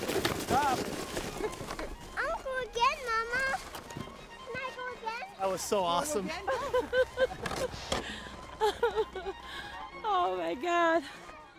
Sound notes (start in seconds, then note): 6.4 laughing